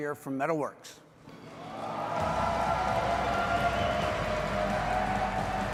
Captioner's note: audience applauding